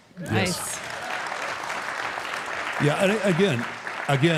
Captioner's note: audience applauding